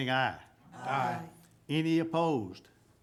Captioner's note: group chanting